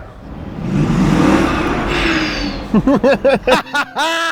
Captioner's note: car engine roaring; laughing